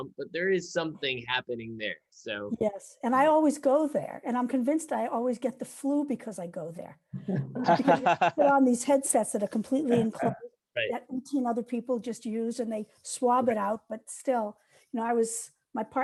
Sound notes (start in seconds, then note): 7.2 laughing